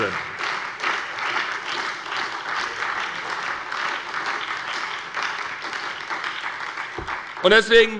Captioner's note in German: Beifall bei der SPD und der FDP